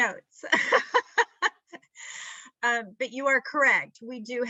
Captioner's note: laughing